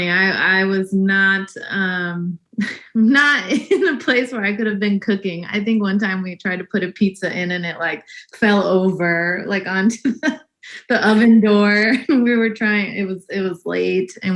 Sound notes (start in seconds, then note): 1.6 laughs; 11.1 laughs